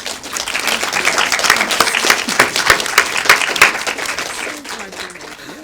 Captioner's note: applause